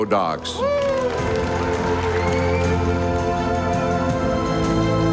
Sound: audience applauding

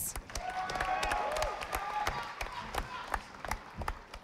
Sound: audience applauding

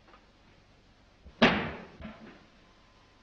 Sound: crashing sound

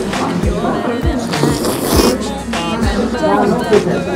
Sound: slurp slurp

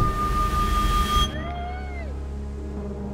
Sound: people cheering

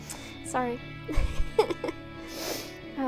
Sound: chuckles

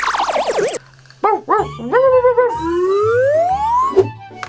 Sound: barking

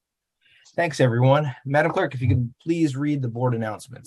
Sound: reciting the pledge of allegiance

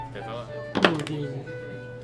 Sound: whimper

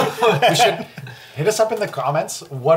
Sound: all laugh

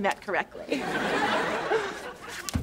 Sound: laughing

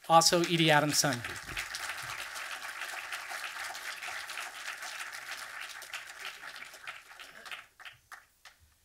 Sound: audience applause

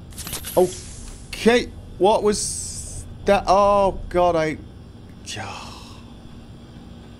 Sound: sighs in annoyance

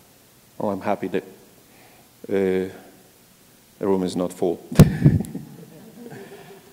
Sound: laugh

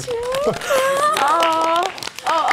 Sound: audience applauding

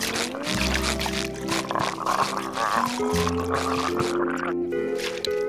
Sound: gurgling

